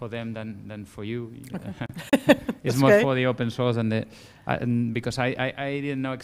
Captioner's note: laugh